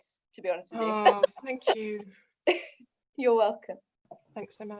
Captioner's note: laughter